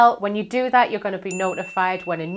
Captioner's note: notification ringing